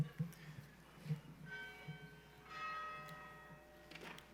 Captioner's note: bell ringing